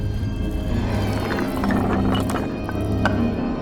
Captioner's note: rocks falling